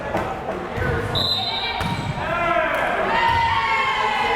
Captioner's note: whistle blares